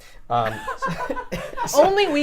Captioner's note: laughter